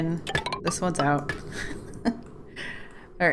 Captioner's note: laughs